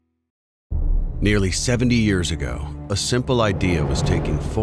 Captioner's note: voiceover